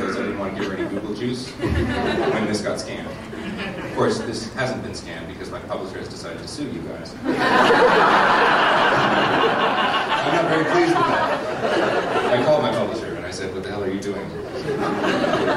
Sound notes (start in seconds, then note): 7.2 laughter